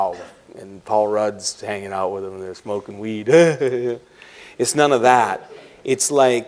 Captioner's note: laughs